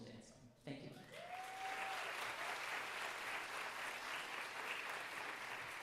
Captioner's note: audience cheering and applauding